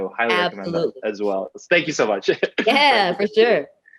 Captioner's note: laughs